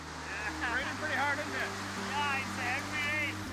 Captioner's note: laughs